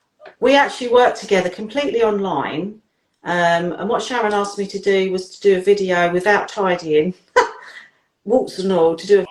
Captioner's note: laughs